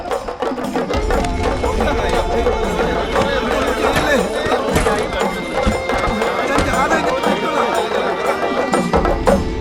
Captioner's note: indistinct chatters